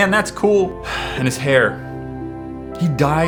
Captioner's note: sigh